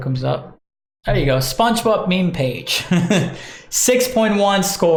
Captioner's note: laughs